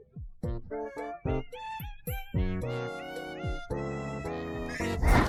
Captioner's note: groaning